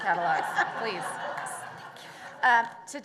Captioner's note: laughter